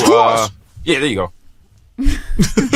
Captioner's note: laughs